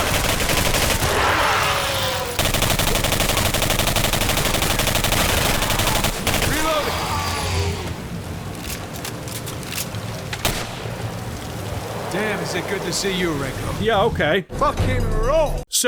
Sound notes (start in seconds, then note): 0.2 assorted monster shrieks and gunfire sounds; 8.5 assorted reloading clicks; 10.4 gunshot